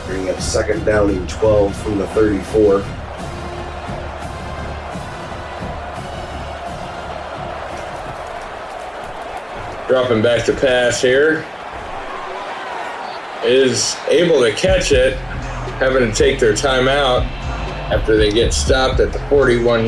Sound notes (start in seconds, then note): 4.1 crowd Noises; 11.9 crowd Noises